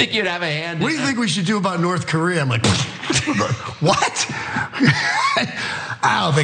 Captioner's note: laugh